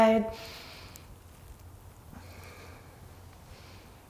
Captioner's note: deep breaths